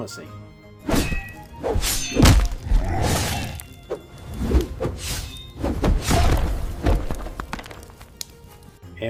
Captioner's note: fight Noises